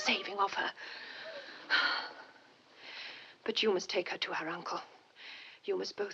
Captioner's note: exhales